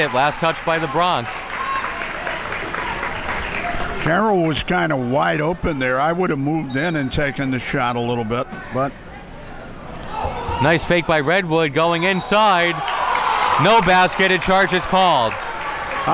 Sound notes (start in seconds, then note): 2.6 crowd applauds; 11.8 crowd yelling; 11.9 whistle blows